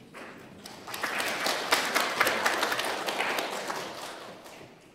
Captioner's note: applause